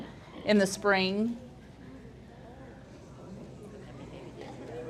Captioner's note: group chattering